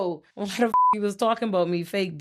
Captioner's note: beep